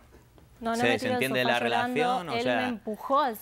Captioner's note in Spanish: Hablan al unísono